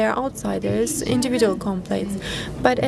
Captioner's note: speaking foreign language